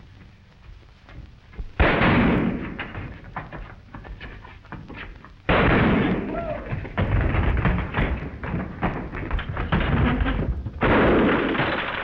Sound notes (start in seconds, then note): 1.7 explosions banging